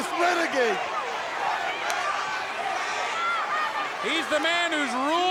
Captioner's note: crowd cheering